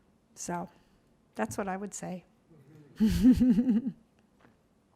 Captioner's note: laughs